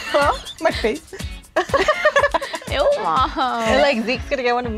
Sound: all laughing

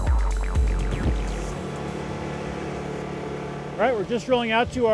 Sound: boat engine howling

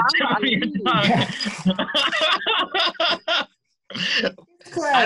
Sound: laughter

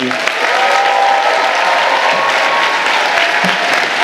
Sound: audience applauding

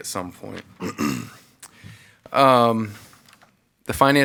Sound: clears throat

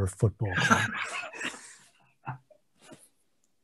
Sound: laughs

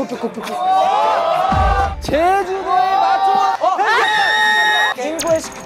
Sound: passionate lesson with cheers and applause

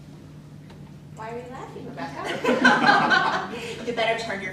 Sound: laughter

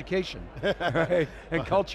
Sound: laughs

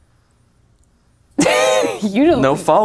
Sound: laughs

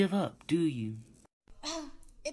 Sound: scoffs

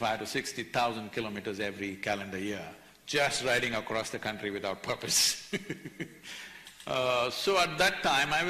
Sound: laughter

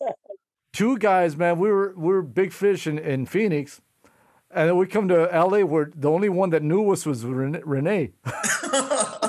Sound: laughter

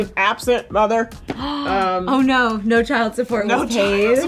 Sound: gasps

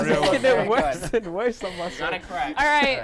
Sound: laughs

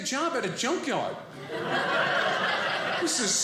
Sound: audience laughing

